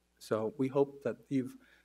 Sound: none

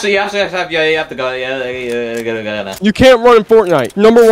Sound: Junior muttering

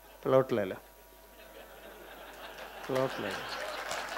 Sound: laughing; rounds of applause

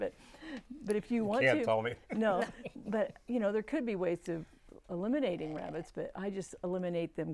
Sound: laughing

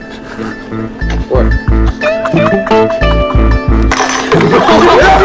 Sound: people laughing

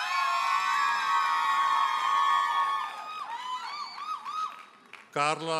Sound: audience hollers and applauds

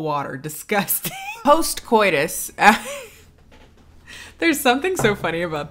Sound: laughing

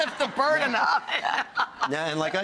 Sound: laughing

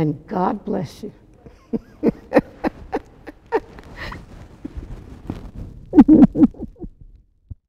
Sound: laughter

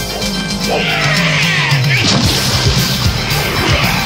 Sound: screaming; grunting

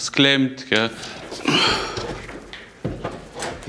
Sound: groan

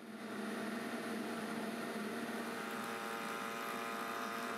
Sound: molder whirring

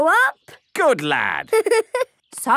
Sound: giggling

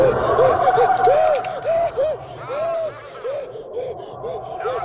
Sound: Quan moaning

